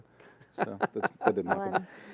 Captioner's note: laughter